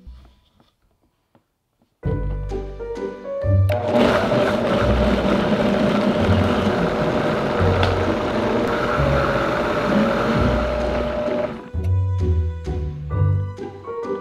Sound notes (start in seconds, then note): 3.3 blender running